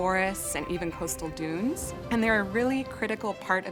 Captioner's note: ocean waves crashing